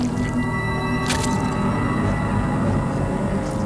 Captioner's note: flesh squishes